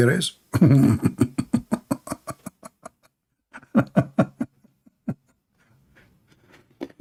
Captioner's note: Ketawa